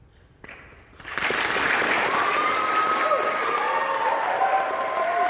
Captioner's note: applause